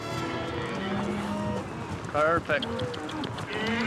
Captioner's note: hoof beats